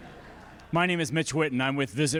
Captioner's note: audience laughing